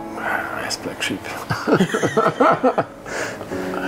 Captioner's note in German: lachen